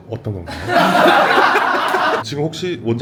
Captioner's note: laughs